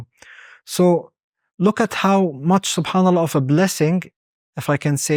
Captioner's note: speaks Arabic